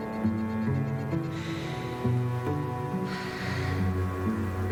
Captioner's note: soft classical music; sighs